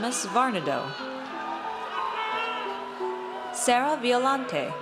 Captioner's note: audience cheers